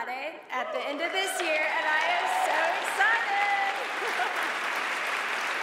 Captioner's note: laughing; audience applauds